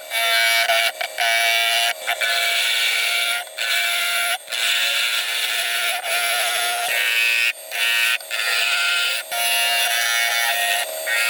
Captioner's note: woodturning sounds